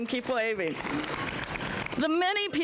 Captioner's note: applause